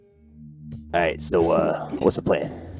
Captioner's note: voice is low and gruff